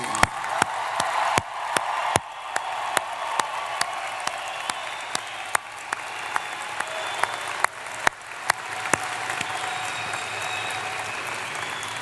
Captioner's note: applause